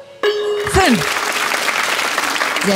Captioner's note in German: Applaus